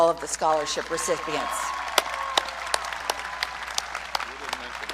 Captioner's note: audience cheering